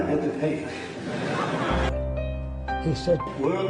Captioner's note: laughter